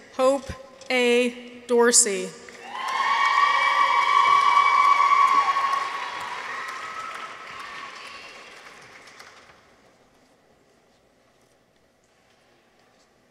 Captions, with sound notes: Hope A. Dorsey. -(people cheer) -(audience applauds)